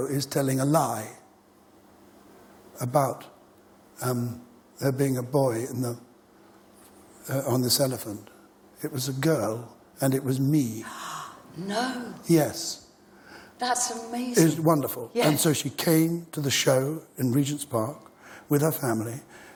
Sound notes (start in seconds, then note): 10.8 Gasp from Kate Mosse